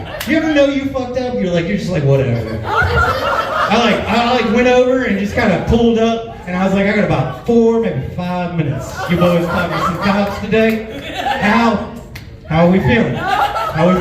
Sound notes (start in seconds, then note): 2.1 laughs; 11.4 slaps face